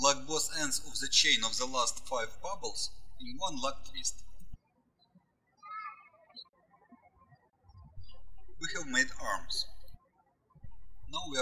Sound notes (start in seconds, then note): 5.3 birds chirping